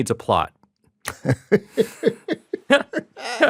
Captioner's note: laughter